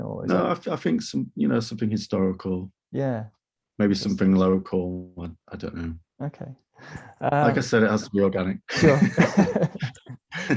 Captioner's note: laughing